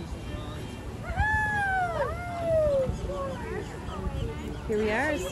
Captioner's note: crowd cheering